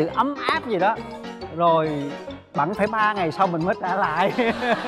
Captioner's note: laughing